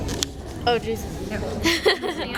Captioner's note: laughs